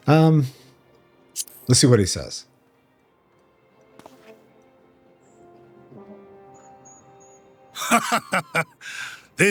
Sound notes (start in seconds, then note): 7.7 laughs